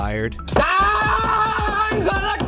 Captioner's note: screaming